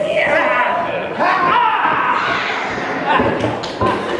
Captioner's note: shouting